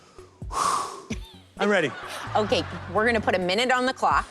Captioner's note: exhales sharply